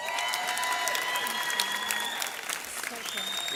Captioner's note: audience cheers